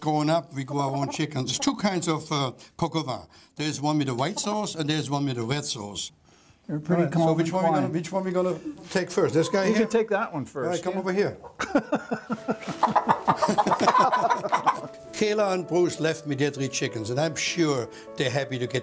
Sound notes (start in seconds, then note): 11.5 laughter